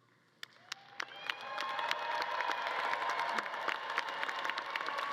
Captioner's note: audience claps and cheers